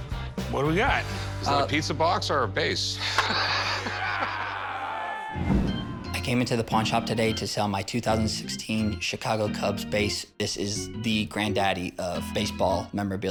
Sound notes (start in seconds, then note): 2.8 umpire yells; 3.0 chuckles